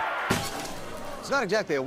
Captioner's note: TV screen cracks